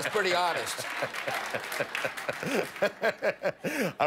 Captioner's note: laughter